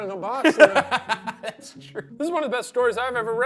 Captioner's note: laughs